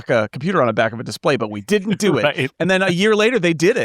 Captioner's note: laughing